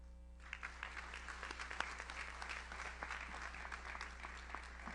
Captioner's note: audience applauds